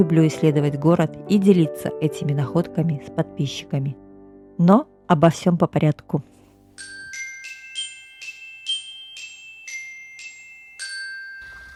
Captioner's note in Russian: колокольчик